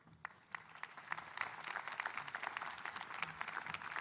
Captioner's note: audience applauding